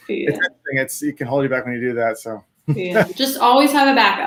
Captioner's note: laughs